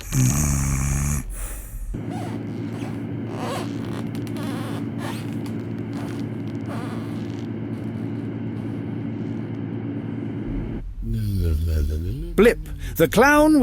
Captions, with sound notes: [Snoring] [Shoe squeaking on wooden floor] Blip the Clown